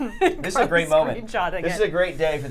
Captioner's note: laughs